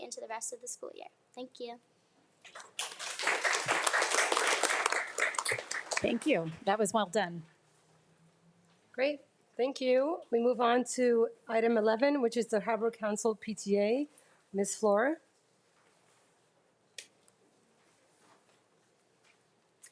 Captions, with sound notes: into the rest of the school year. Thank you. (audience applauding) - Thank you. That was well done. - Great, thank you. We move on to item 11, which is the Harbor Council PTA. Ms. Fluor.